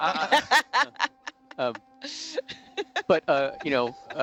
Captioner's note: control room laughs